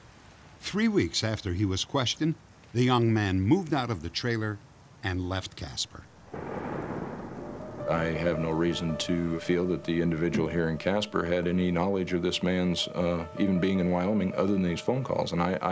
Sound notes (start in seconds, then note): 6.2 thunder